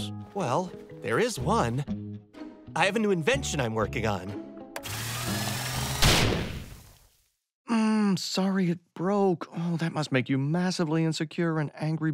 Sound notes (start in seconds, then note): 4.8 whirring; 6.0 explosion booms